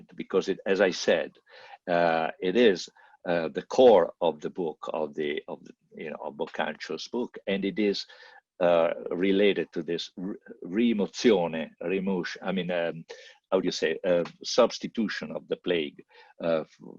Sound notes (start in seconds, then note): 10.8 italian